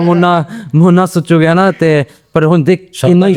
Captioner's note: laugh